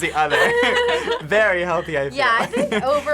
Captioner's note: both laugh